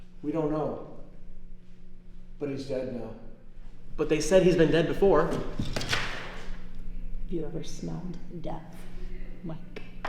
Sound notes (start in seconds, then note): none